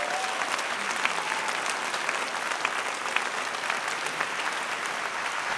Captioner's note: audience cheering and applause